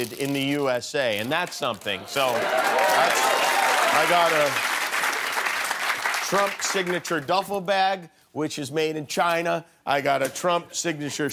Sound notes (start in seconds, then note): 1.8 cheers and applause